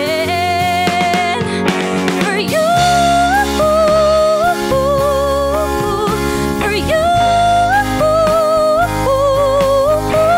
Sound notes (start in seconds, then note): none